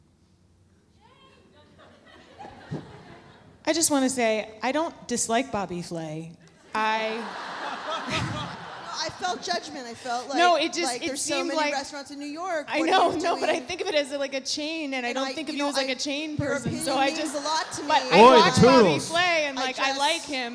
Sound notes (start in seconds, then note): 2.0 audience members chuckling; 7.2 audience laughs